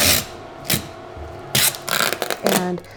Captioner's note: tape squeaking